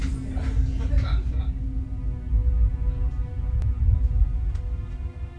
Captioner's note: family laughing in background; soft dramatic music